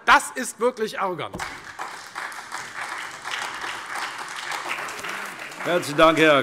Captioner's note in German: Beifall Freie Demokraten, SPD, AfD und DIE LINKE